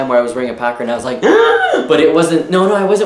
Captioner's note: gasps dramatically